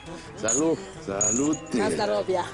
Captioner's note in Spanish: Exclamación en ruso